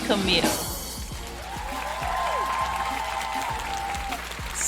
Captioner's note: crowd cheering